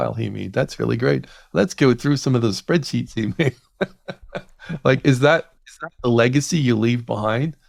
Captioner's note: laughs